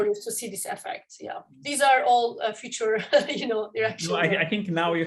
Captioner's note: laughter